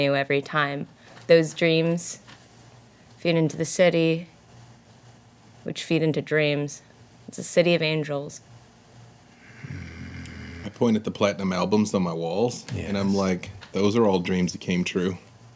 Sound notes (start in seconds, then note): 9.4 growls